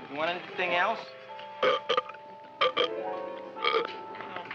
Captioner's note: burp